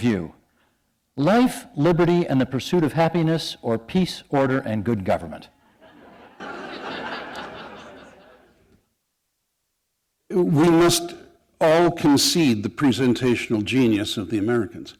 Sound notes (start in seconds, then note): 5.7 laughter